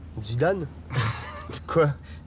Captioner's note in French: rires